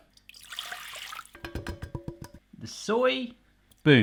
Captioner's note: splashing; tapping